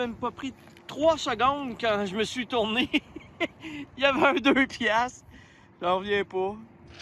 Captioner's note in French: rires